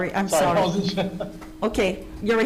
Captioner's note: laughing